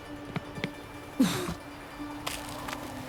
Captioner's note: grunt